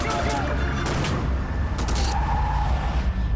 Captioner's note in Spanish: Ruido del vehículo